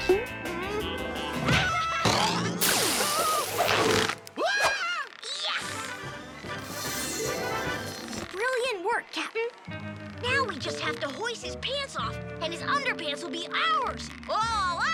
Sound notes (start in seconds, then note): 1.5 laughing; 4.4 big kid yelping; 5.4 triumphant music